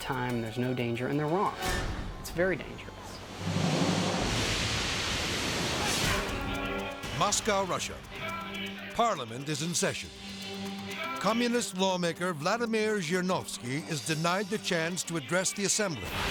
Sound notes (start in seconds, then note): 3.1 water whooshing; 5.4 graphics whoosh